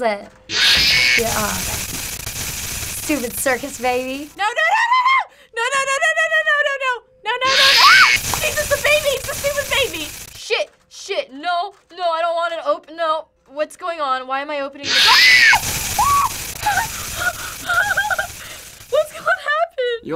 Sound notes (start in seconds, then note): 0.5 baby shrieking; 14.8 baby shrieking; 15.8 gasping, whimpering